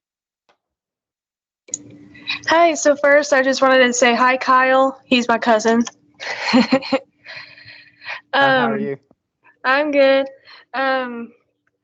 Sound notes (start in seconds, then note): 6.2 chuckles